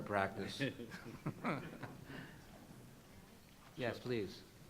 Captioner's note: panelists and audience laugh